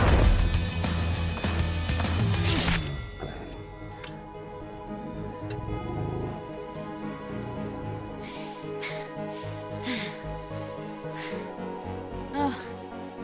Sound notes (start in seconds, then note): 0.1 body thuds; 2.4 sword rasps; 4.8 alien groans faintly; 4.9 Krypto growls; 8.8 Kara chuckles, pants